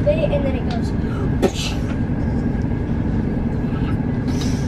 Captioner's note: swishing noises